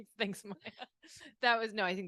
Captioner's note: laughs; laughing